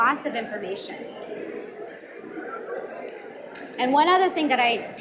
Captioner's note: audience mumbling